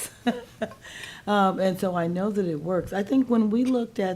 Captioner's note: laughing